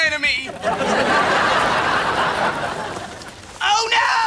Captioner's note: audience laughing